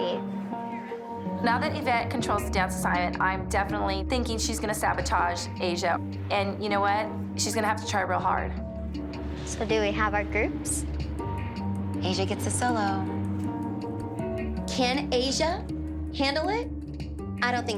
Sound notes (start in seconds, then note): none